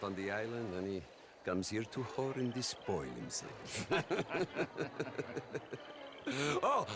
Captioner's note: laughs; laughing